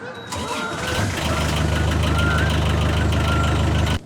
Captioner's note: gees e honking; engine starting